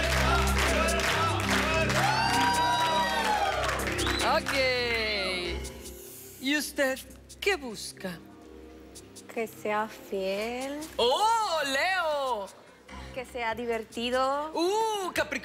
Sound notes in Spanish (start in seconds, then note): 4.6 Gritos y exclamaciones